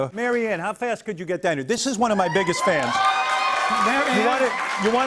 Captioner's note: cheers and applause